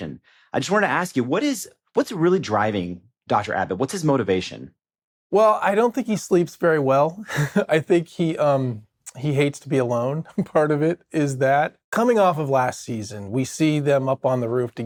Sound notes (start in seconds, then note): 7.2 chuckles